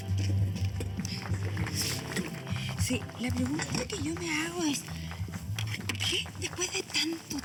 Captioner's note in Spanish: aplausos